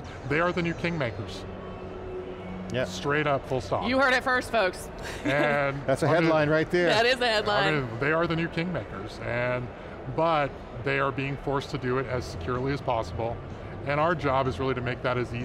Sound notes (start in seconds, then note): 5.0 laughing